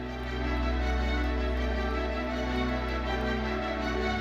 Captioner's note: audience applauding; bright uplifting music continues